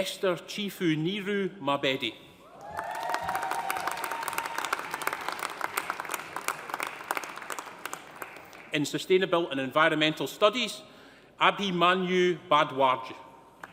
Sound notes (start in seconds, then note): 2.5 audience cheering; 2.6 audience applauding